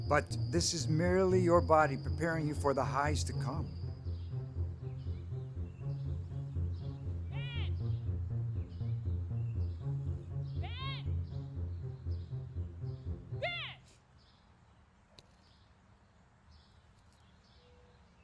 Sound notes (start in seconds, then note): 4.0 birds chirping